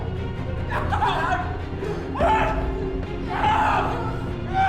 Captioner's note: yelling